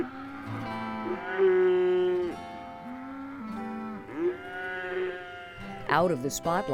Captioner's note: cows Mooing